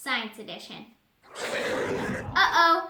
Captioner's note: monster roar